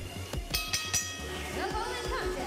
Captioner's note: bell ringing